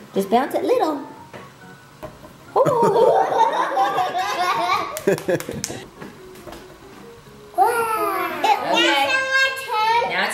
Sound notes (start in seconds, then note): 2.6 laughter and clapping